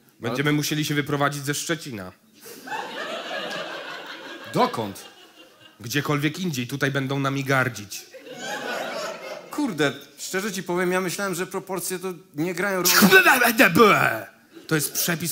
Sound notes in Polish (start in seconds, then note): 2.5 śmiech